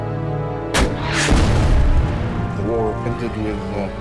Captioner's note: explosion booming